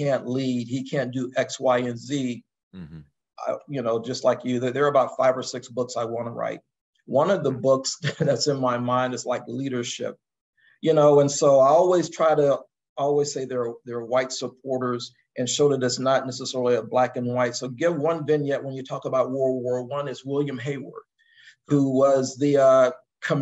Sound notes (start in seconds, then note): 8.0 laugh